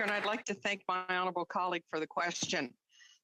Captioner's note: some Applause